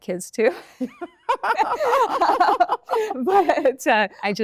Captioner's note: both laugh